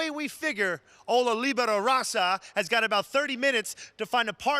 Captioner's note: mocks foreign language